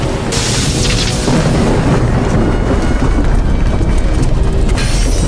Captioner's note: total destruction roaring